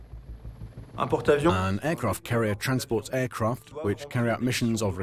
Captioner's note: voiceover